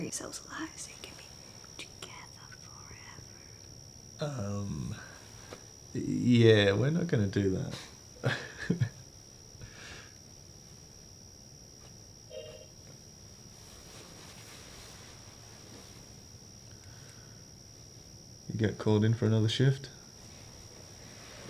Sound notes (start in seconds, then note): 8.2 laughing; 12.3 phone pinging